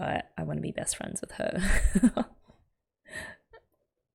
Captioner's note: laughs